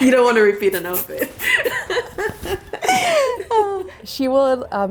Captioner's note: both laughing